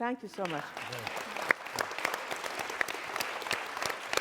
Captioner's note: applause